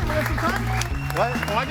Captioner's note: audience applauds and cheers